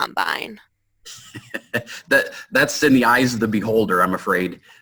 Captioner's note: laughs